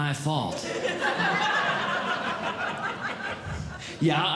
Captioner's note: audience Laughing